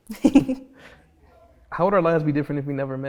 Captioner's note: both laugh